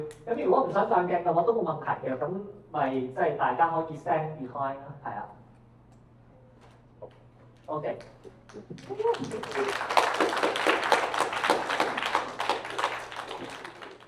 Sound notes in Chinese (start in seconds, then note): 8.2 掌聲